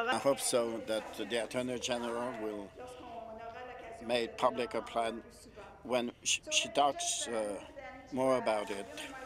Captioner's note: speaking French